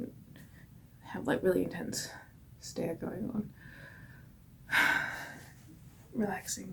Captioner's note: sighs